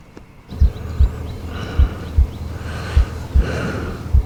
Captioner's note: heartbeat pounding